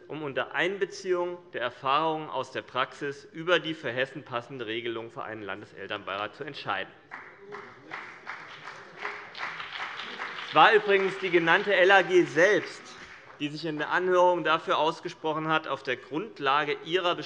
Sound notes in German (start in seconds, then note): 7.1 Beifall BÜNDNIS 90/DIE GRÜNEN